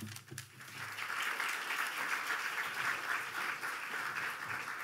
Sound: audience applauding

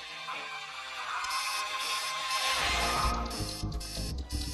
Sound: alarm clock beeping

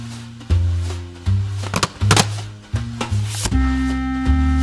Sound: sound of cassette being loaded

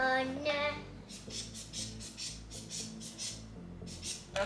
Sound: singing; squishing air

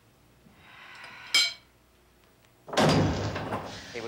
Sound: sighs

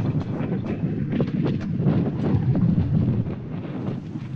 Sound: wind rushing

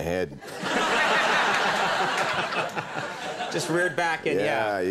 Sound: audience laughing

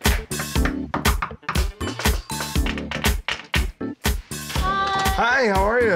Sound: knocking

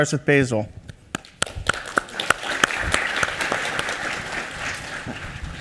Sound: applause

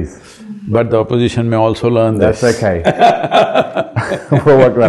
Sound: both laugh

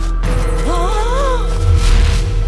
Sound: exclaims

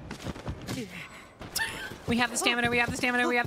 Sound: laugh

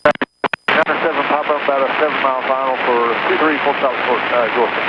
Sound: feedback from radio

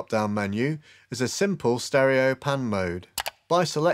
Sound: button clicks

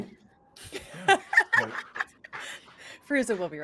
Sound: group laughing

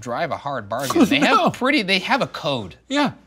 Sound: laughing

